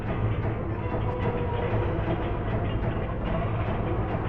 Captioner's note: gates thudding